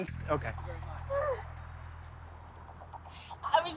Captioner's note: crying